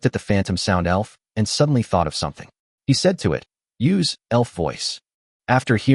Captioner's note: elf Voice